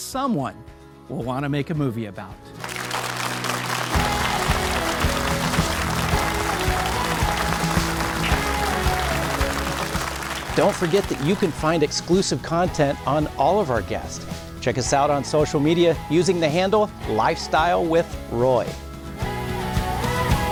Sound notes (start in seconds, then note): 3.8 upbeat music; 6.3 audience applauds